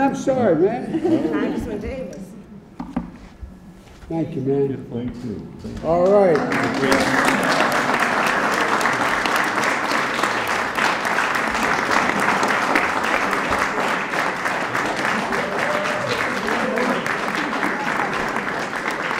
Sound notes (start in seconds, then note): 5.9 applause